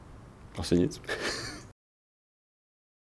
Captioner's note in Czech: smích